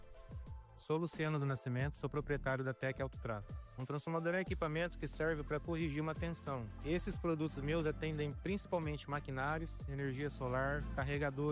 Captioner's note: speaking another language